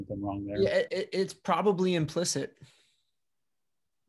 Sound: calm Voice

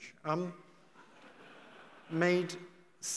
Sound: audience laughing

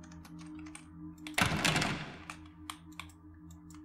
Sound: door Rattles

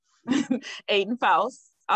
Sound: chuckles

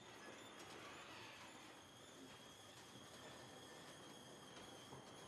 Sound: garage door creaks

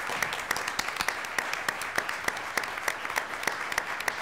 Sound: applause

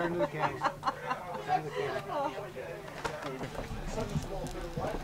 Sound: woman laughs

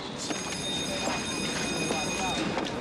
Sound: school bell rings

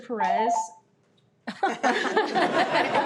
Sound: timer rings; everyone laughs

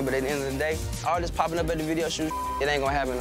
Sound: beep

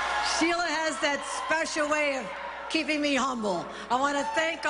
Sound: applause

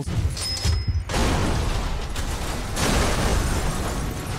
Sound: car crashing

